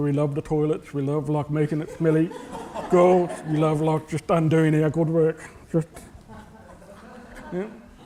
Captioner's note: laughter